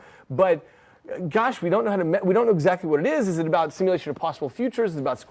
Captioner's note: none